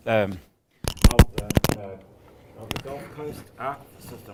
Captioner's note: microphone crackles